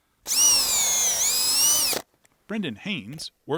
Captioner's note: drill buzzing